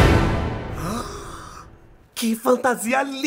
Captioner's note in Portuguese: suspiro de surpresa